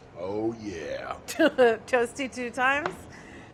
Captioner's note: laughing